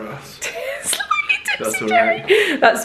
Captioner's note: laughs